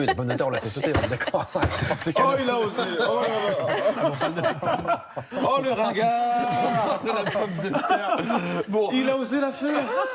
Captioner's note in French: rires